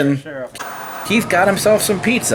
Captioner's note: white noise scratching